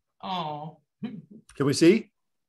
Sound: laugh

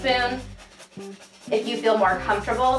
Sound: grater scrapes

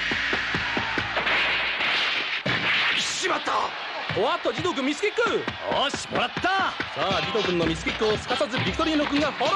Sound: applause

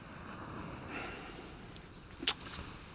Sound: Sebastien sighs; Sebastien clicks tongue

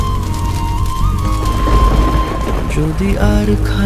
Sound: sparkling

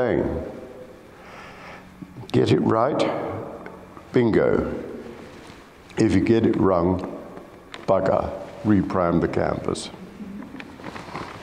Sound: sound of pages turning

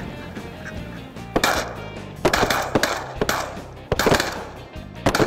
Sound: guns firing

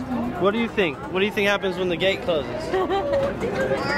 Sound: laughter

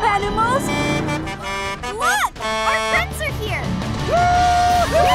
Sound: honking

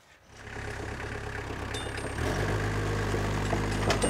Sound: tractor rumbles

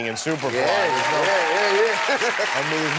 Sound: cheering

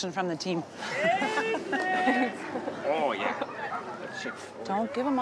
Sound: laughs

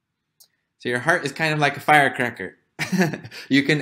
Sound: laugh

